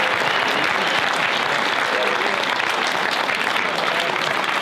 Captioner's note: audience applause; audience cheers